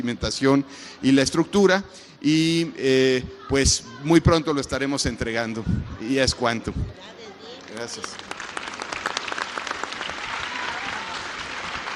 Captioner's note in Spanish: aplausos